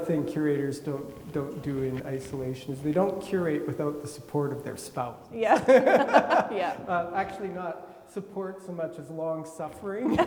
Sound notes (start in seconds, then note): 5.5 laugh; 10.0 laugh